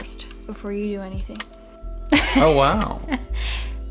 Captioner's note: laughs